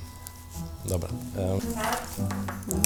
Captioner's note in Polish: Wzdycha